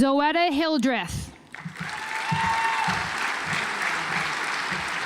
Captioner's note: audience applauds